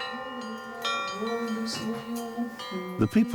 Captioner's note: chanting